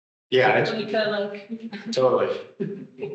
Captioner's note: speaker speaking softly